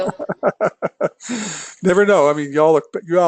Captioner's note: laugh